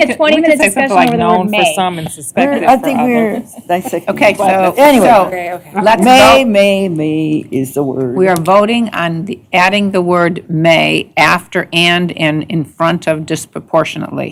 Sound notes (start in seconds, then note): 4.4 indistinct chatter